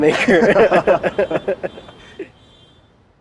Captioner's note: laughing